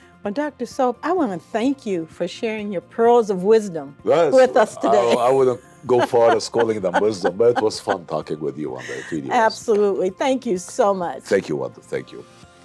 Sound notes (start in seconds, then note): 5.8 laughs; 12.4 inspiring upbeat music